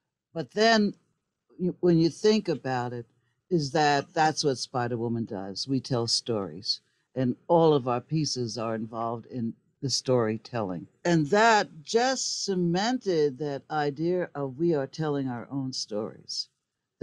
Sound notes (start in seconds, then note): none